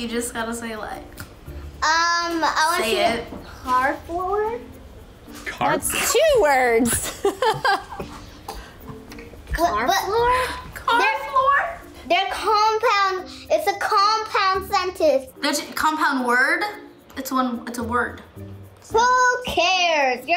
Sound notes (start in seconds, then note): 6.8 laughs